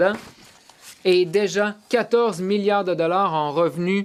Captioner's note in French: voix de l'interprète